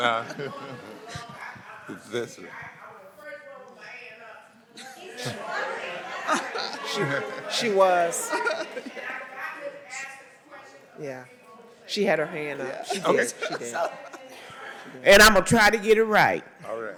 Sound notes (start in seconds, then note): 4.8 laughter; 8.1 laughs